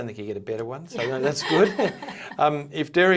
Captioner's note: both chuckling